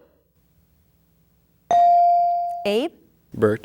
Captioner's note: bell dinging